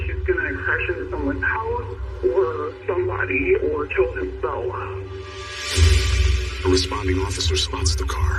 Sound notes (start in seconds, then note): 1.1 distorted v voice